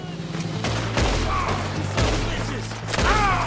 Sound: A firefight starts

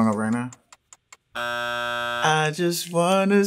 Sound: buzz

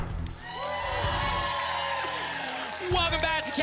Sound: audience applause

